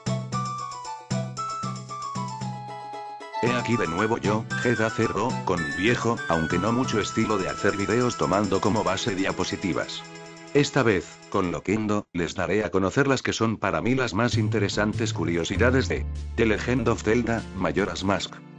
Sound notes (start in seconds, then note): 11.7 an artificial voice